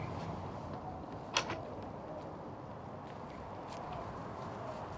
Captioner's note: gate closing